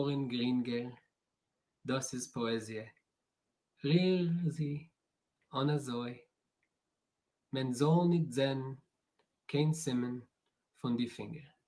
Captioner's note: reading in yiddish